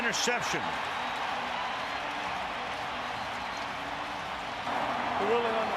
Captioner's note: cheering